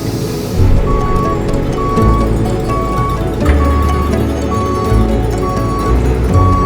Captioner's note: calm lively music continues; truck whining